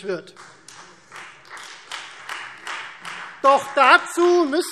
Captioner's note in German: Beifall Freie Demokraten